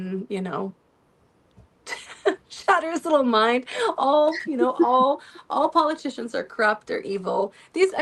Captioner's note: laughter